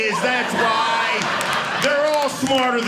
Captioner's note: audience laughing